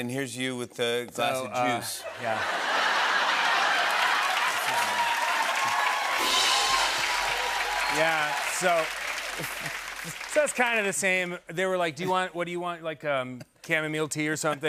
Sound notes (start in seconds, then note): 2.5 laughter and applause; 5.2 cheering; 6.2 rimshot